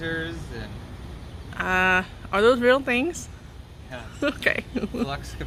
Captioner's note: laughs